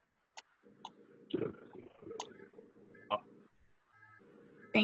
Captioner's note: speaks faintly